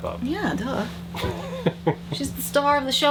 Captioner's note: laughs